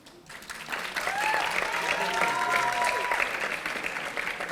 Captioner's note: audience applauding